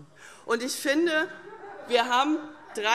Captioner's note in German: Vereinzeltes Lachen SPD